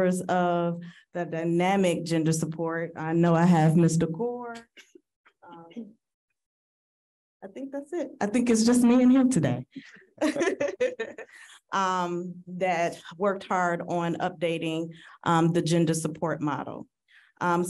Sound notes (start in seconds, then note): 10.2 laughing